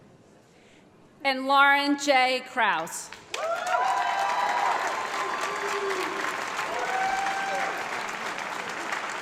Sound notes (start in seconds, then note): 3.1 applause